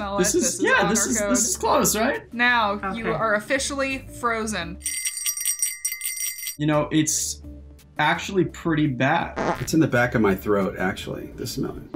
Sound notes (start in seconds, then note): 4.8 bells tinkling; 9.4 fart noise